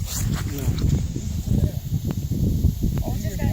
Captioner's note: hissing